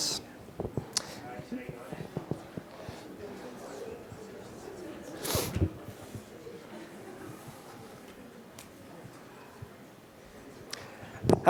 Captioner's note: chatter